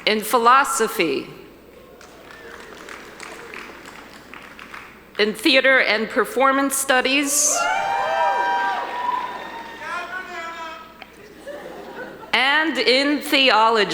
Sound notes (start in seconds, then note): 1.6 audience applauding; 7.0 audience cheering